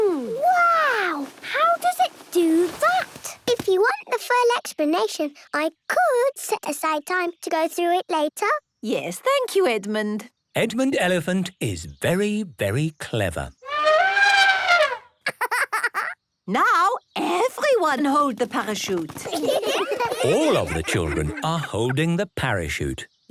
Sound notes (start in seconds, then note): 13.4 laughing; 13.6 trumpeting; 19.2 laughter